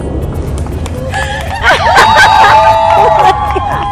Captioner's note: everyone hollering